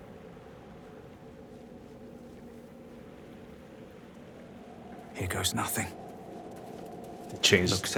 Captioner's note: silence